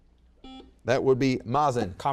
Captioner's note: buzzer beeps